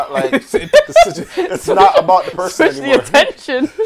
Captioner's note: laughter